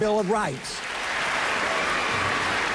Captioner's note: applause